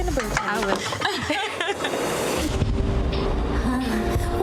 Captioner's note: laughs